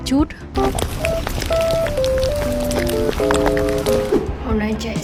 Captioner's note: asmr eating sound